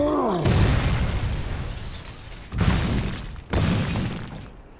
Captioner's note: Hulk grunts; metal crashing